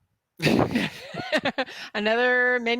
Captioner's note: both laugh